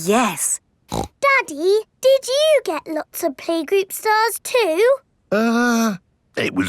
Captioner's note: snorts